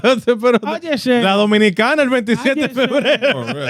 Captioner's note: speaking In Foreign Language